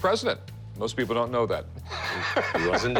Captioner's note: laughs